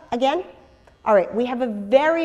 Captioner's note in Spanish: pausa